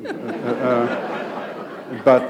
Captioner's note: laughter